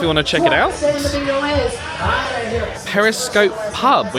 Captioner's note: excited bingo speech